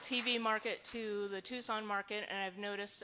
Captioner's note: applause